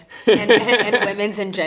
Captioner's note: interviewer chuckling